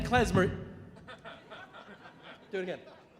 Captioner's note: audience laughing